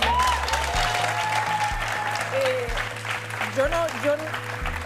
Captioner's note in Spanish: aplausos